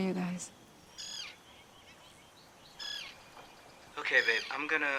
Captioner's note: crane caws